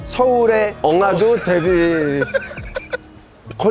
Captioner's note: laughing